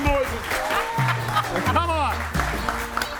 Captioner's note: laughs; audience whistles and applauds